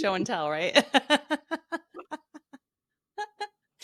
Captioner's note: laughing